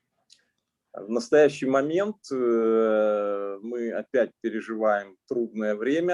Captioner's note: speaking Russian language